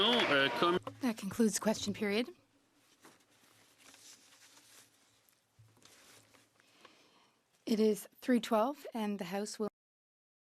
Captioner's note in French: voix de l'interprète